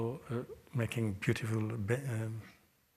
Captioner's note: french